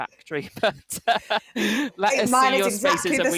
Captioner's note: laughs